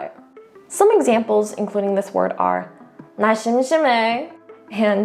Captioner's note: speaking in Korean; speaks in Korean; continues speaking in Korean